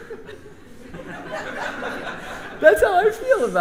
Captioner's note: laughs; audience and band laughs; laughs